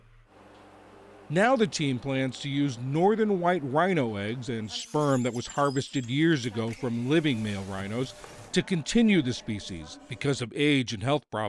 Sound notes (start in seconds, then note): 1.6 voice-over